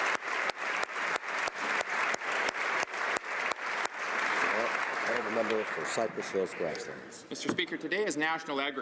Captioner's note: applause